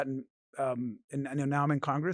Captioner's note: none